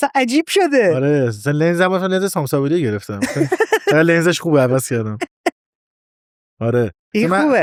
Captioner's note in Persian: خنده